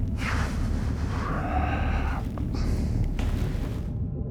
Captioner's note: Montgomery sighs